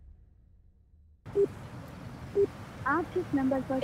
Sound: line beeps

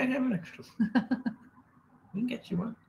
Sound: laughing

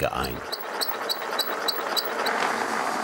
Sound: squeaking, rattling

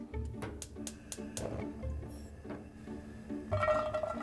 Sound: stove clicking; upbeat music; onions clattering; upbeat music

